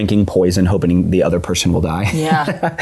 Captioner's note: laughs